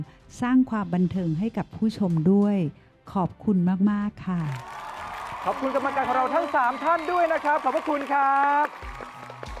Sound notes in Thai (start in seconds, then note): 4.4 เสียงปรบมือ